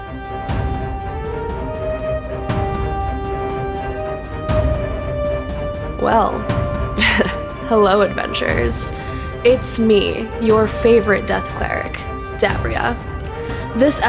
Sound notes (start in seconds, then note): 6.4 chuckle